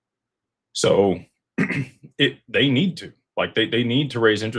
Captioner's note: clears throat